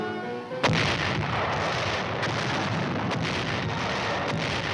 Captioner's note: cannon firing